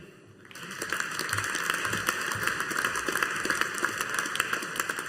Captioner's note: audience applauding